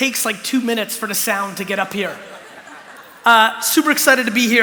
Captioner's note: laughter